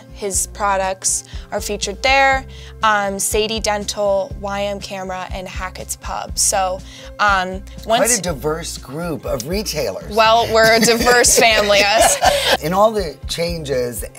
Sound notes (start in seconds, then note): 10.4 laughs